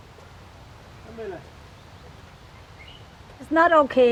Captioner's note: birds chirping